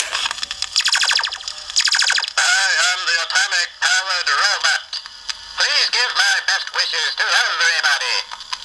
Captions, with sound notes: [Laser sounds] I am the atomic powered robot. Please give my best wishes to everybody.